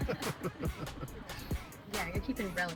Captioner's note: people laughing